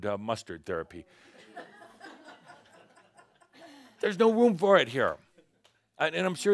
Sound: some chuckles

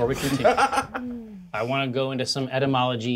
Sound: co-host laughs

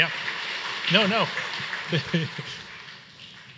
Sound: laughs

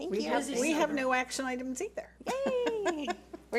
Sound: laughs

